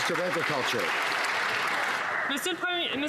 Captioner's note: some Applause